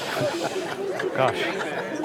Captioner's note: crowd gasps